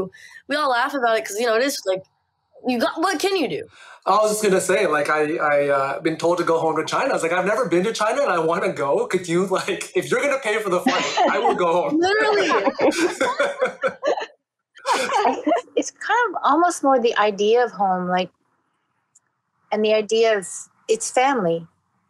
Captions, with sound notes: you guys might have heard the similar kind of sentiment too. We all laugh about it because it is, like... what can you do? - I was gonna say, like, I've been told to go home to China. I've never been to China and I wanna go! Could you, like... If you're gonna pay for the flight, I will go! (laughing) - It's almost more the idea of home, right,